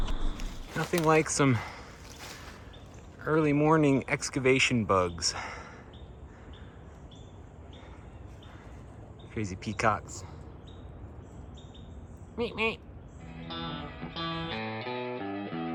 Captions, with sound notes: Nothing like some early morning excavation bugs. (birds chirping) Crazy peacocks. Meep, meep. (upbeat music)